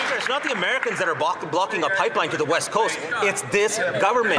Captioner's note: some Applause